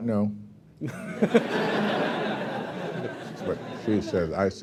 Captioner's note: laughter